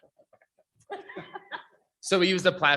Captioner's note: people laughing